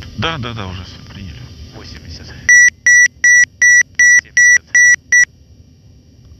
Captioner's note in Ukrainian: звук відключення автопілота